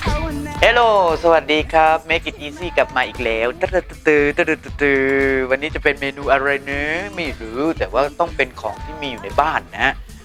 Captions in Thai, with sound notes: เฮงโหล สวัสดีคับ Make it easy กลับมาอีกแล้ว ตะลึดตึดตือ (ทำเสียงจังหวะดนตรี) วันนี้จะเป็นเมนูอะไรนะ ไม่รู้แต่ว่าต้องเป็นของที่มีอยู่ในบ้านนะฮะ